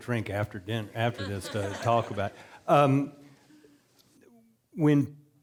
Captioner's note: audience laughing